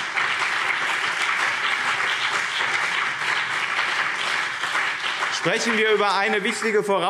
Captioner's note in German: Beifall BÜNDNIS 90/DIE GRÜNEN und CDU